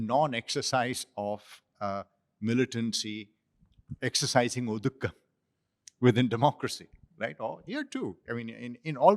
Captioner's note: non-english